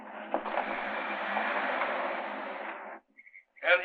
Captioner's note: car rumbling